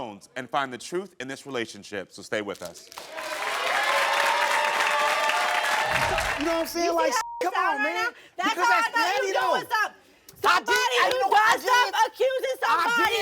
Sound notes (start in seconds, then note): 2.9 audience applauds; 3.0 audience cheers; 7.2 beep